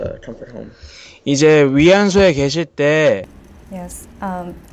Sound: speaks in foreign language

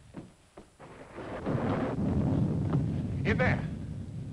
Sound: thunder rumbling

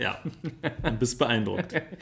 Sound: laughs

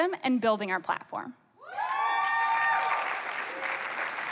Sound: applause

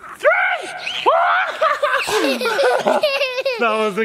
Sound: laughing

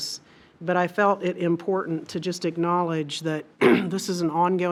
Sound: clears throat

